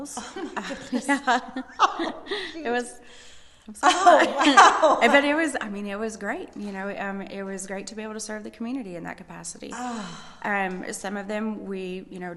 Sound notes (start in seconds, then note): 0.0 laughing; 0.0 laughs